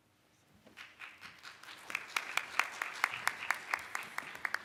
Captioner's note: applauding